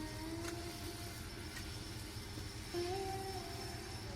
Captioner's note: drill whirring